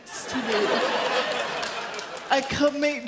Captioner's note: audience laughs